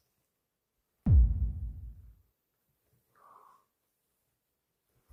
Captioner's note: inhalation